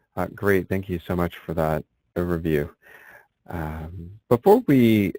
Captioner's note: voiceover